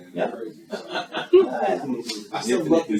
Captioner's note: guests laughing